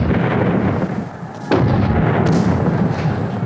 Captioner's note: booming